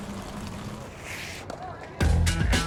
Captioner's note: bicycle rattling; tire scrapes